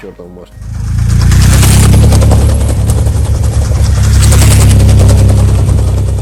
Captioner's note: noise of wheels on sleepers